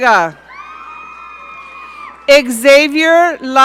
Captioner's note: audience cheering